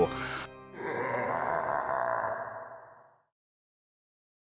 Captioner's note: scary laughing